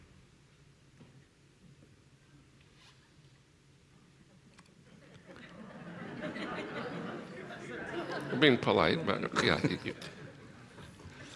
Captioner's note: laughter